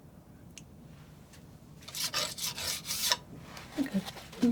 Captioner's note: scratching